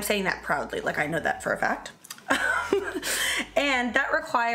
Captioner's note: laughs